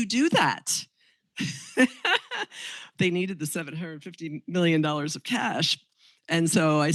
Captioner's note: chuckles